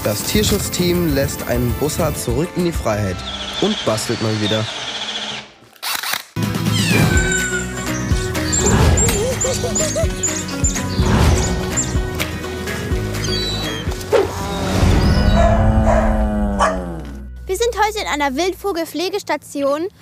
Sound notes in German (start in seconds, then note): 3.5 Bohrgeräusche; 6.4 Fröhliche Musik, Lachen